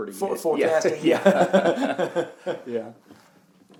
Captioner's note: laughing